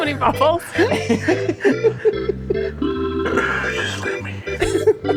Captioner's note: all laughing loudly